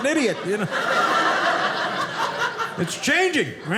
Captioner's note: audience laughing